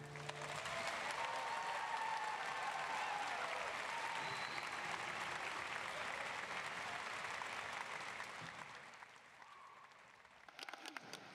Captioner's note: applause